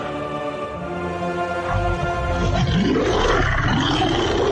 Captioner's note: monster Roar